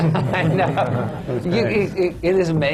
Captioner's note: laughter